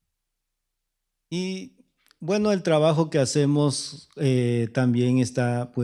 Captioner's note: speaking spanish